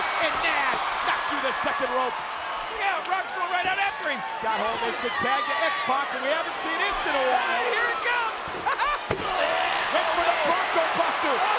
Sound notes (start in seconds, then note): 8.6 laughing